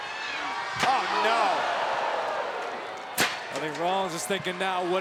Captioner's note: crowd gasps